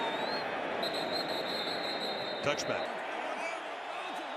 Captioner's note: whistle